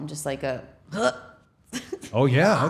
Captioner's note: grunting